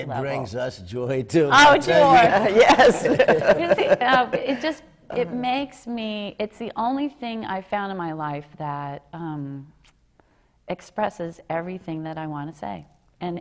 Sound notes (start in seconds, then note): 2.4 laughter